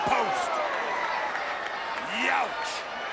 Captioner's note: crowd cheering